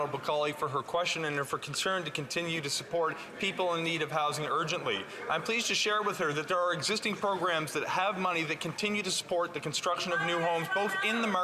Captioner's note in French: voix de l'interprète